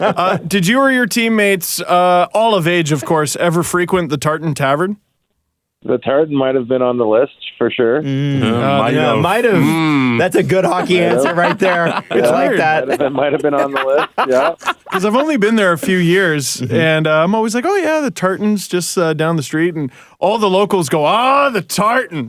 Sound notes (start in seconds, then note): 8.0 collective sounds of agreement